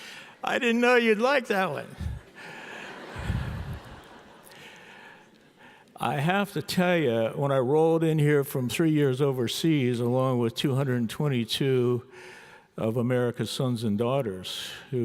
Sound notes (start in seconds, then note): 1.7 audience laughs